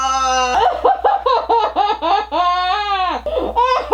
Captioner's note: sobbing